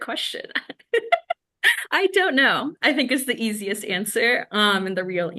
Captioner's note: laughs